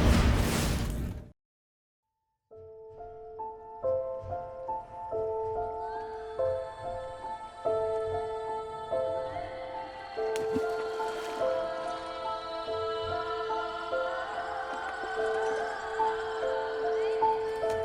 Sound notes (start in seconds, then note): 2.0 soft piano music; 10.3 water splashing